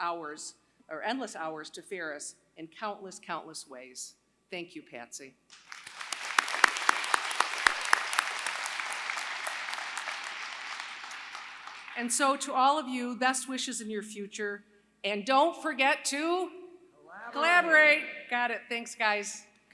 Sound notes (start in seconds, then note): 8.0 applause